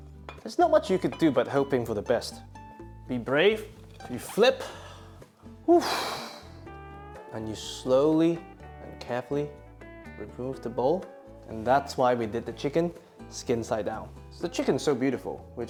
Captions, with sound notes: There's not much you could do but hoping for the best. Be brave, you flip. [sighs] And you slowly and carefully remove the bowl, and that's why we did the chicken skin side down. The chicken is so beautiful.